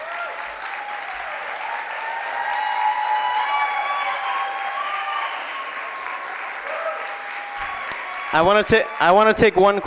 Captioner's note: applause